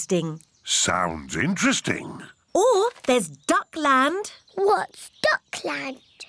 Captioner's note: none